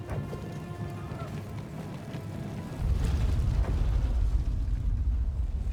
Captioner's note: explosions